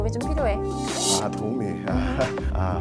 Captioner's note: disappointed sound effect